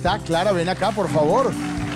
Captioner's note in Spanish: Aplausos